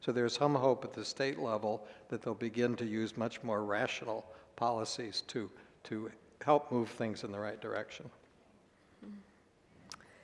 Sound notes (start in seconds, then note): none